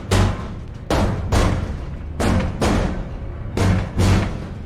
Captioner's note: none